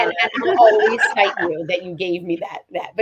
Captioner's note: laughs